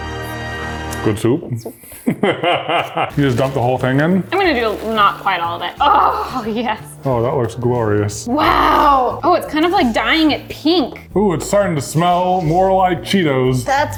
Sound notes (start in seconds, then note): 1.9 laughs